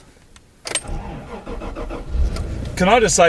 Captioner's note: engine starts and revs